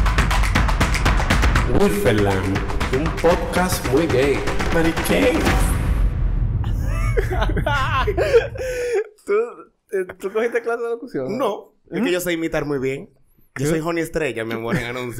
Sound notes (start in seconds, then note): 6.8 laughs